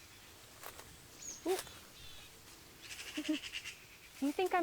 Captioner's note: birds chirp; leaves crunch